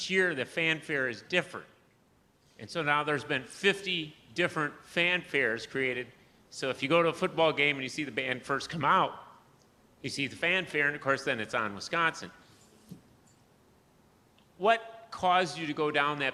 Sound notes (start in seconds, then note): none